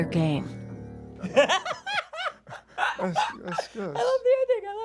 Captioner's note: laughter